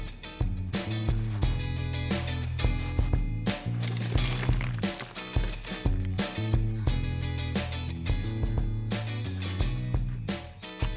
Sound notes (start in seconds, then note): 0.1 acoustic guitar music; 3.8 briquettes crackle; 7.5 acoustic guitar music